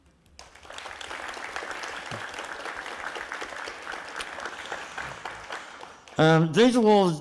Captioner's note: applause